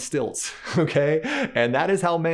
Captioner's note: chuckles